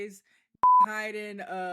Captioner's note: beep